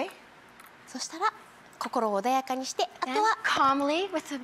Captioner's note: speaking foreign language